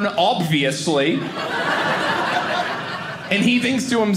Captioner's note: audience laughing